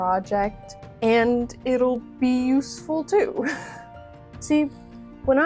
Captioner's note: small laugh